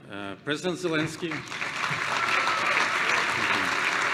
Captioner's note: applause